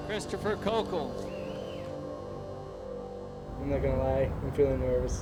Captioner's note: whistling